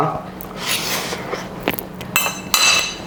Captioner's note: AMSR slurps